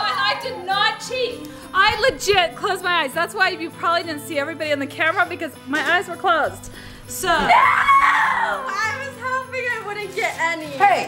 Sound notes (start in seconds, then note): 7.3 girl screams